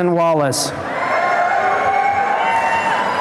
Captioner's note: applause and cheering